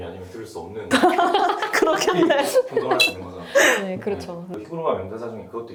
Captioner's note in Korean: 웃음